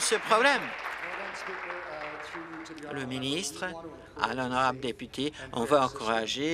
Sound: applause

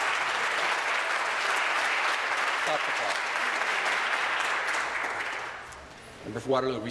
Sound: applause

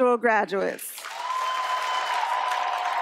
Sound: applause

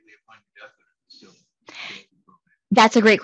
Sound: faintly speaking

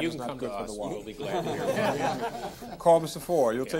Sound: all laughing

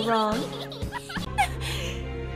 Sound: gasp

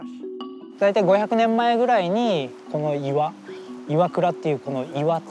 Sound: speaking in Japanese

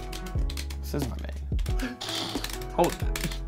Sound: sarcastic Laugh

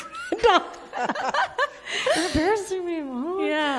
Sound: all laughing

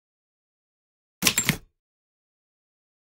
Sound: sound of typewriter

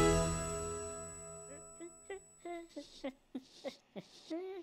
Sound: humming

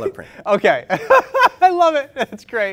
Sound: laughter

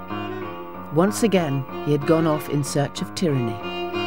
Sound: none

